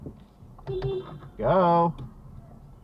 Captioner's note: beepbeep